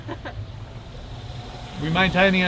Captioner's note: both laugh